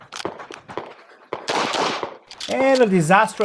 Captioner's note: gunshots banging continues